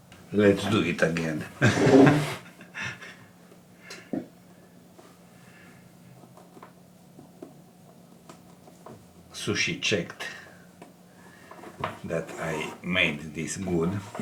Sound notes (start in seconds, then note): 1.6 laughs